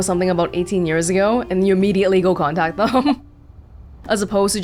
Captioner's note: chuckles